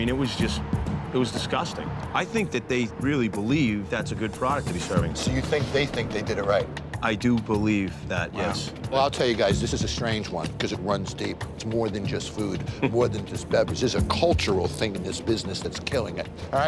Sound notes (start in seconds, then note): 12.8 chuckles